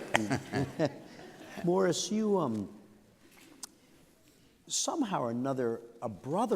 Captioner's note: laughter